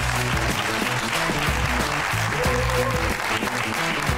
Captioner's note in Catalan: aplaudiments